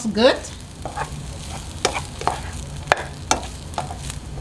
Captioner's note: spoon scraping